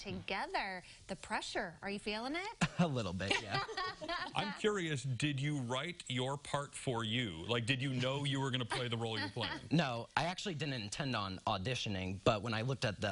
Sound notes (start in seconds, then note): 8.6 laughter